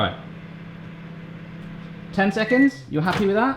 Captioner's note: microwave humming; beeps